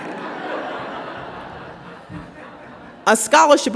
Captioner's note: audience laughs